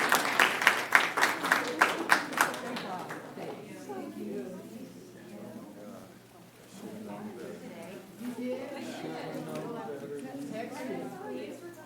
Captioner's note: applause